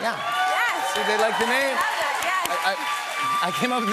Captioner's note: cheers and applause